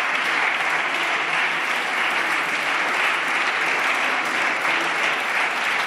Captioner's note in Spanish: Aplausos